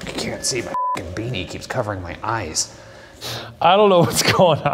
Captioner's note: beep